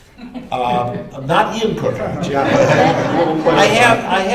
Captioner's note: laughter